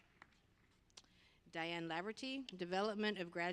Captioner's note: applause